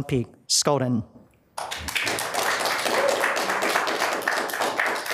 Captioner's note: audience claps